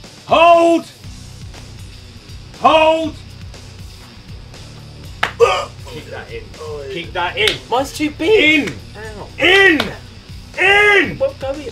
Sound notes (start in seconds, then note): 5.3 JJ grunting